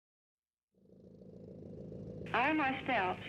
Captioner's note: motor running